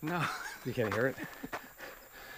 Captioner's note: laughs